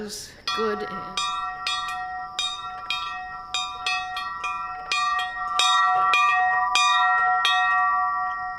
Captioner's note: bell ringing